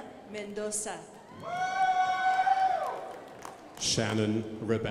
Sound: crowd applauding

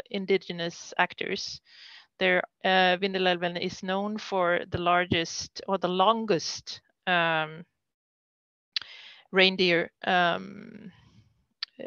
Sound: foreign language 00:41:19

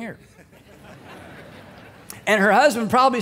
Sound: congregation laughing

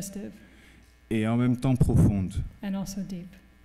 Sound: speaking french

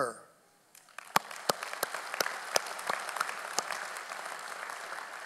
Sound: audience applauding

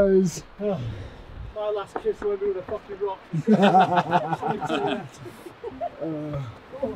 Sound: everyone laughs

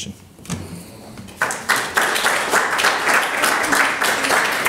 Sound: audience claps

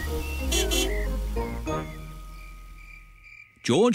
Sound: horn honks

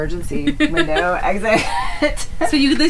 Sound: laughs

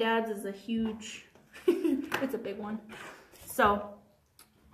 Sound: chuckles

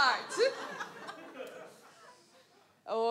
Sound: audience laughs

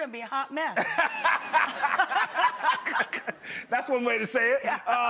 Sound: laughing

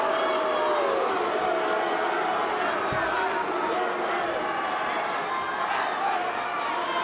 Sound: crowd jeering

